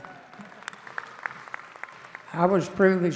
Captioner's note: audience applauding